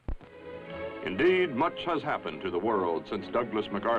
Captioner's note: gentle instrumental music; voiceover